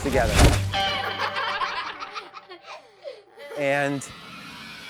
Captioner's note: kids laughing